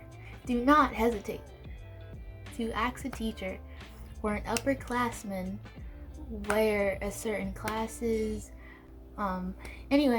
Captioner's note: aggressively claps lol